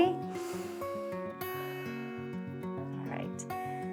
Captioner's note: inhales and exhales